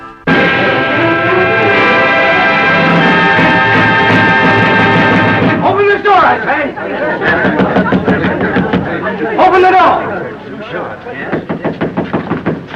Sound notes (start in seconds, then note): 7.0 great confusion, cries; 11.2 knocks on door